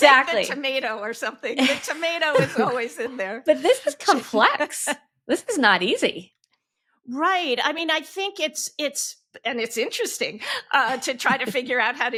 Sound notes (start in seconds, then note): 1.6 hosts chuckling; 4.5 laughing